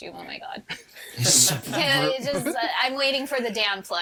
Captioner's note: all chuckling